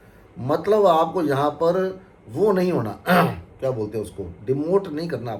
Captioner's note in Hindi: गला साफ़ करने की आवाज़